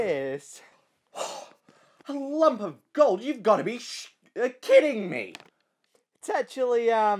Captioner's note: gasp